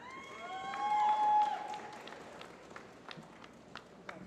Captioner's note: applause